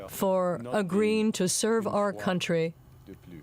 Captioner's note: speaking French